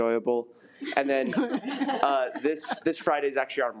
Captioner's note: attendees laugh